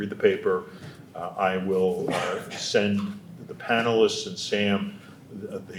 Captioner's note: attendee coughing